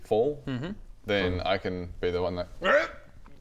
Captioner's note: hrrgh